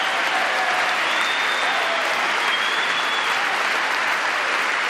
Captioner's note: applause